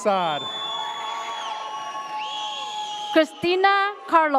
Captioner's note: audience cheers